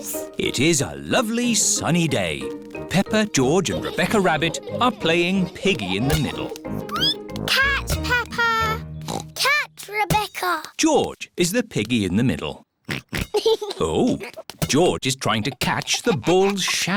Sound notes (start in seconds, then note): 6.5 squeaks; 9.0 oinks